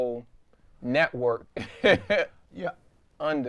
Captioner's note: laughs